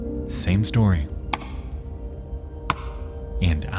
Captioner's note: keyboard clicking sound